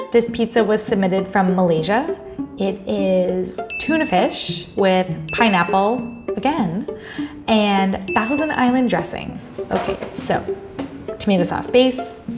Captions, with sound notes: This pizza was submitted from Malaysia. It is (bell dinging) tuna fish with (bell dinging) pineapple again, (bell dinging) and Thousand Island dressing. Okay so, tomato sauce base.